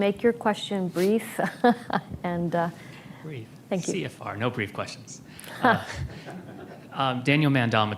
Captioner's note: laughs; laughter